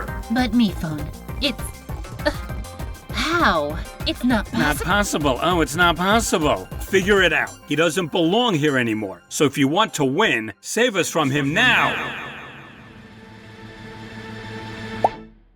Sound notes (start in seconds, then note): 4.8 mockingly